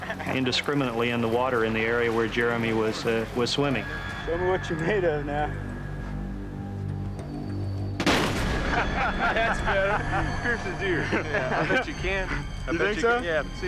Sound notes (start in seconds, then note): 8.0 gun shot; 8.6 laughter